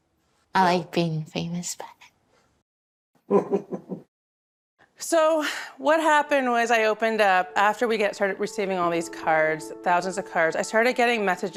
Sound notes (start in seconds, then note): 3.3 laughing